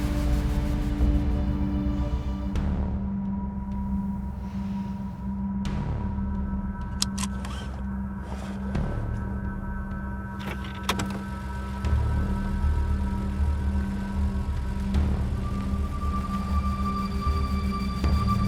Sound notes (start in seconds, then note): 7.1 seatbelt clacks; 8.1 suspenseful music